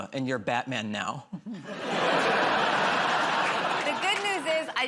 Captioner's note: laughter